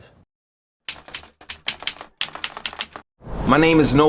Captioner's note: keyboard keys clicking